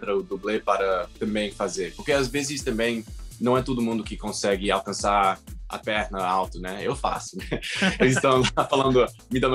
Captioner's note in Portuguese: risos